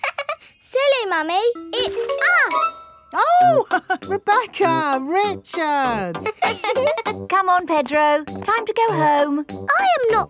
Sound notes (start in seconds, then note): 0.3 laughs; 6.1 both laughing; 6.2 chuckles